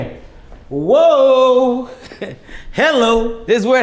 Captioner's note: chuckles